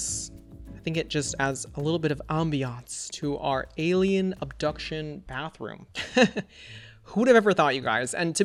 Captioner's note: laughs